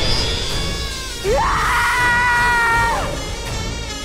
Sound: screams

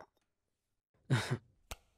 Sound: coughing

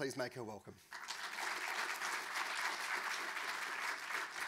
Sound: audience clapping

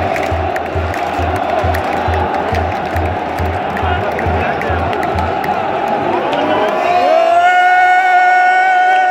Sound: clap

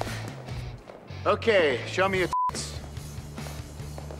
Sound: beeps

